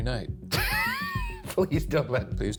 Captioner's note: laughs